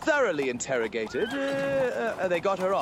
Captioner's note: horses neigh